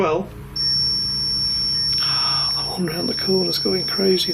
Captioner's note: high pitched beep